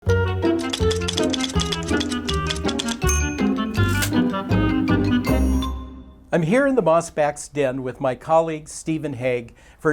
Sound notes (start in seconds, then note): 0.0 playful music; 0.6 typewriter keys clicking